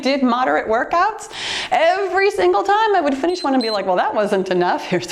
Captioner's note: timer beeps